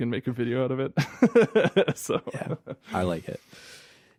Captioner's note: laughs